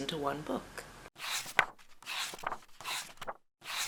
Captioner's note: pages turning